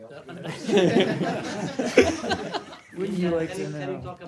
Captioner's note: laughter